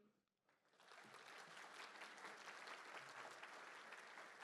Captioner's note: applause